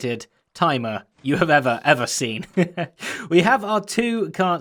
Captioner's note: chuckles